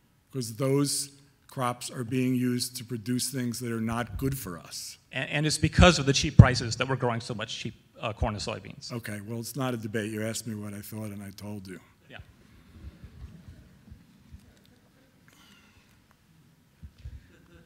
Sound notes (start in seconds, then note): 5.2 voiceover; 12.2 voiceover; 12.8 audience murmuring